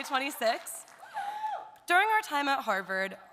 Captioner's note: audience cheering